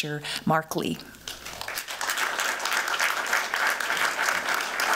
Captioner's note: applause